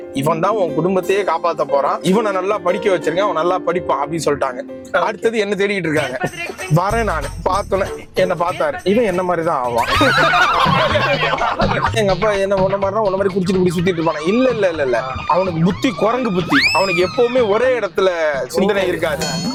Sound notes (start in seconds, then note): 9.8 laughs